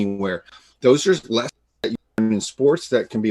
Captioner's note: voice cuts out